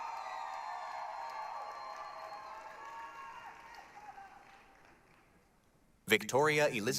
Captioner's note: applause, cheering